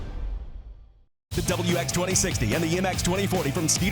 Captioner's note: voiceover